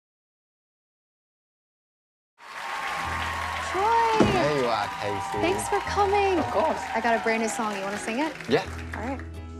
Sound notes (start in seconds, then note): 2.3 audience applause